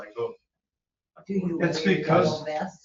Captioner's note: overlapping chatter